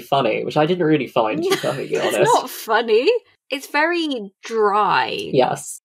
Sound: laughing

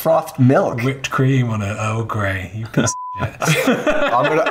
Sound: beep

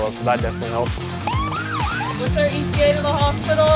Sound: ambulance Siren going off

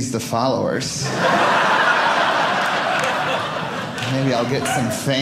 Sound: audience laughing

